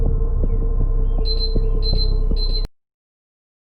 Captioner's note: beeping